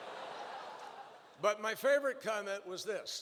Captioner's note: laughter